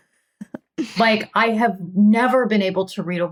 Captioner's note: laughing